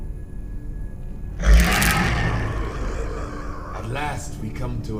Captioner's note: growling